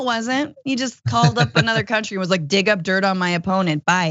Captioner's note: laugh